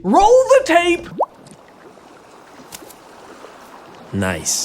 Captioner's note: bubbling popping